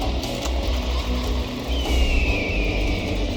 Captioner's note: camera click, music & motorbike rev; music & Hawk call